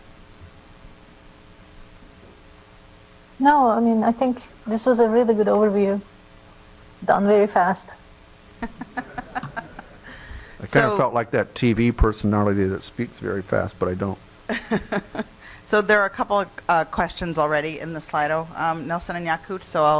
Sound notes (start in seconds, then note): 8.6 laughing